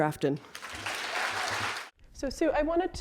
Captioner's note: applause